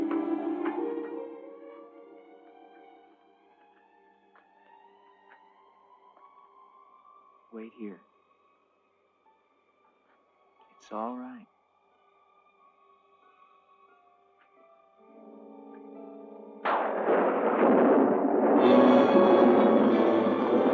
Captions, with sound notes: Wait here. It's all right. [thunder crashing] [tense music]